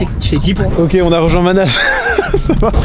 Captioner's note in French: rire